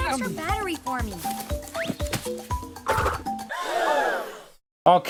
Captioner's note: crowd gasps